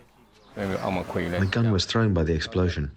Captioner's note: through translator